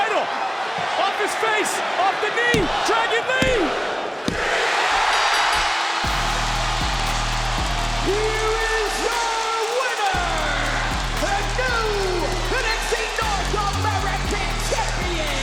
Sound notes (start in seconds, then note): 4.8 audience cheering; 5.1 bell ringing